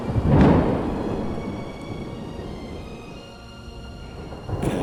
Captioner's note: lightning striking